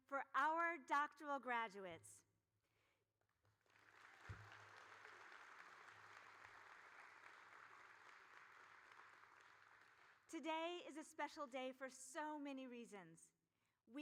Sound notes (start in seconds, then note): 3.6 audience applauding